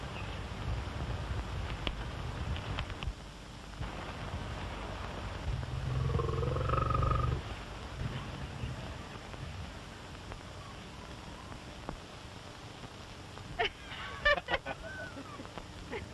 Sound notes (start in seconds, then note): 5.5 growls; 13.6 both laughing